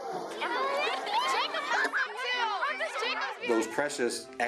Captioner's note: background chatter